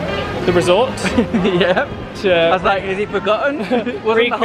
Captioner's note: laughs